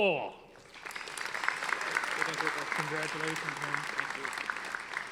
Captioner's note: audience applauding